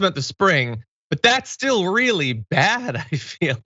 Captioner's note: laugh